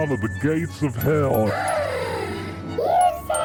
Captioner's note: gasp